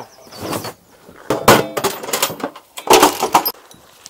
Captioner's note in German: klappern